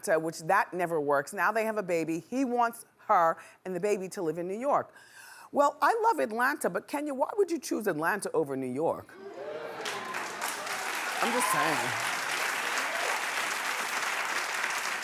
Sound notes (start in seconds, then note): 9.2 cheering; 12.6 clapping